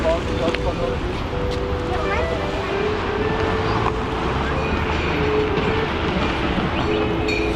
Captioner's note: wind Blowing